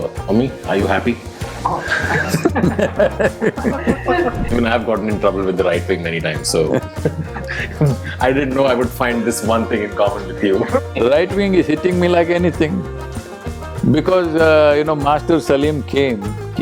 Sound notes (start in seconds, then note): 1.7 Sadhguru laughs; 10.5 laughter